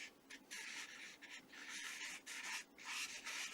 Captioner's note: pencil writing